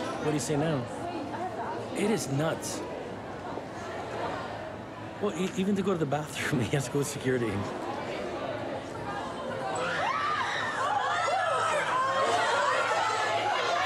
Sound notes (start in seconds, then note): 9.8 women screaming